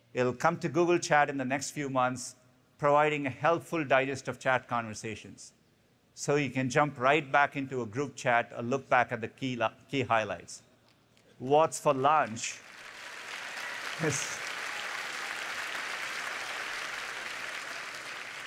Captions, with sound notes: It will come to Google Chat in the next few months, providing a helpful digest of chat conversations, so you can jump right back into a group chat and look back at the key highlights. What's for lunch? [APPLAUSE]